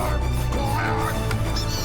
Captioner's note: whinging